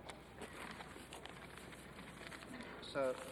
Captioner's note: paper crackling